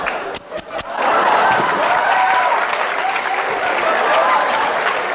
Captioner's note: applause